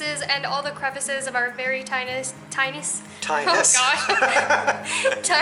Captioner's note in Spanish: Risas